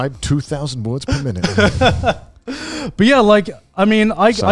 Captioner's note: laughs